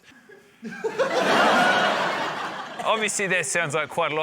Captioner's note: laughter